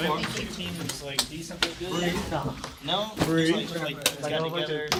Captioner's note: students murmur